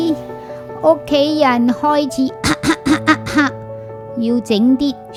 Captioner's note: cough